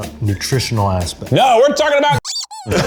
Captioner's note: laughing; squeak